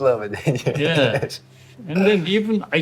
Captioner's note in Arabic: ضحك